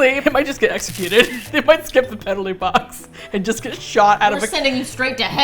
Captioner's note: laughs